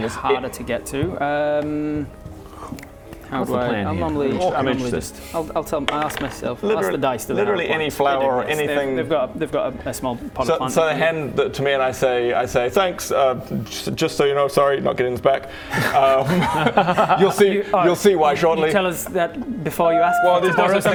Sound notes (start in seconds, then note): 15.7 no-regrets giggle